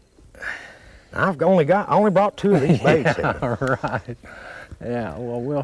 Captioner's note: laughter